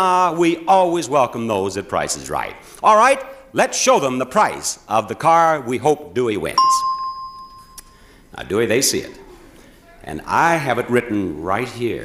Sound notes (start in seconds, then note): 6.6 bell chimes